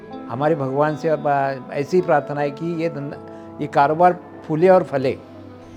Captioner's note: speaking foreign language